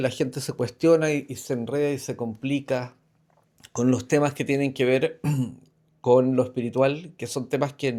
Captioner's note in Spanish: carraspeo